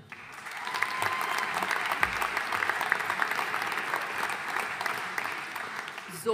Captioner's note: audience cheering and applauding